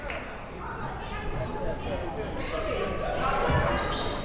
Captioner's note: crowd members talking